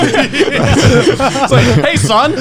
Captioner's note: laughing loudly